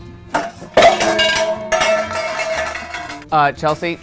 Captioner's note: pan banging